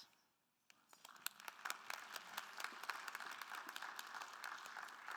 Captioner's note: attendees applauding